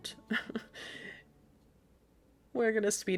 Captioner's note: laughing